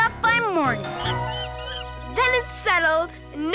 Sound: monkey screeching

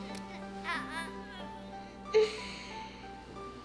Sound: light instrumental music; groans; light instrumental music

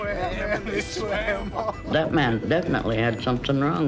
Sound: laughing

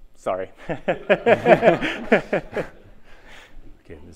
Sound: laughter

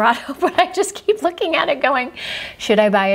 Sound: laughs

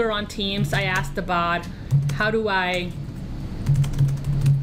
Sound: typing

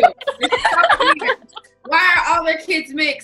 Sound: laughing

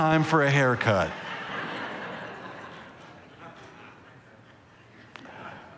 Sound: congregation laughing

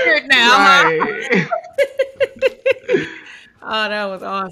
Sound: laughing

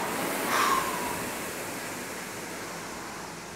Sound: sighs

